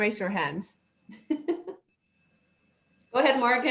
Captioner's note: laughs